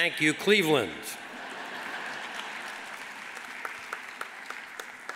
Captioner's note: audience laughs